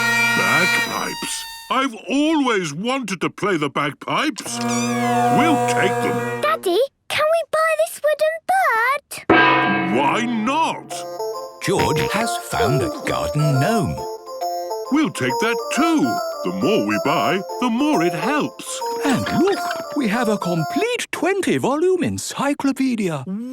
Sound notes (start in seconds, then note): 5.0 dissonant music; 9.1 gong; 14.1 giggling